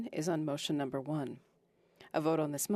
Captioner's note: speaking French